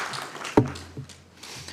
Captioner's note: applause